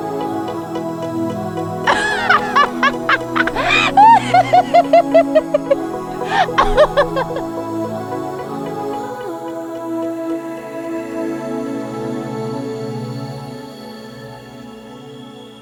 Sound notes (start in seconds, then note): 6.0 laughs in joy